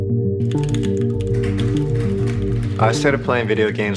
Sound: keyboard clacking

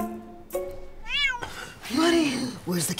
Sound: cat meow

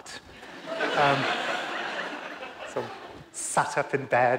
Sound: audience laughs

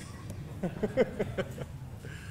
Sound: laughing

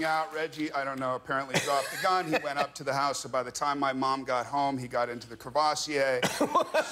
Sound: laughter and applause

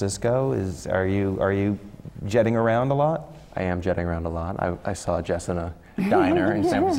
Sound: laugh

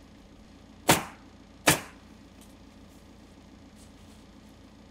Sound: nail gun bangs

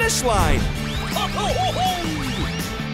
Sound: yelling

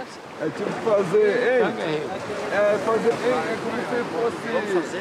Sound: speaking in foreign language; speaking foreign language

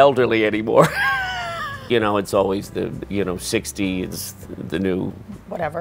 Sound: laughs

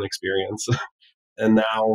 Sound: laughs

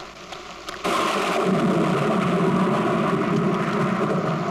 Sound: thunder crashing

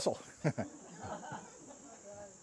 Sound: laughter

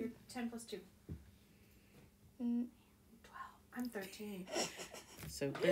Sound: whispers 12

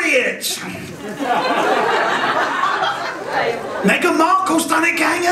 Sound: participants laugh

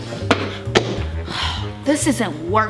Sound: stomping; sighing

